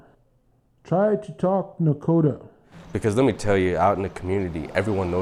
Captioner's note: speaking Nadoka language